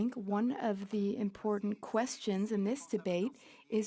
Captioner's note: speaking French